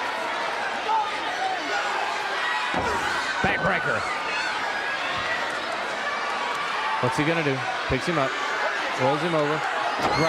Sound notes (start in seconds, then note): 1.7 crowd cheering; 5.4 crowd cheering